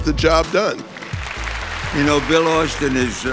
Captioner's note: clapping